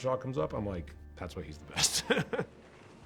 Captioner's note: laughs